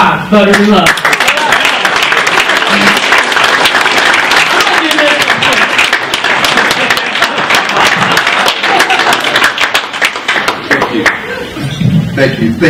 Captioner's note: clapping